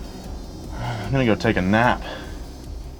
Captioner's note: sighs